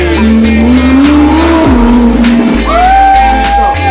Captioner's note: engine roaring